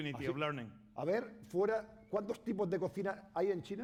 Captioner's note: speaking spanish